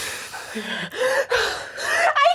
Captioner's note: laughing